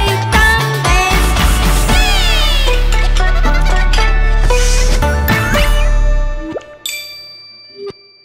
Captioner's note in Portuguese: Risos